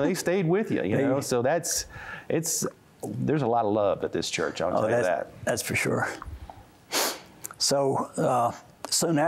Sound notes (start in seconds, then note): 6.9 sniffs